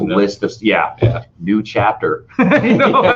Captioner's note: laughing